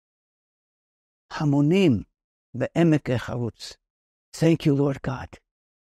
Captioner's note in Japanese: ヘブライ語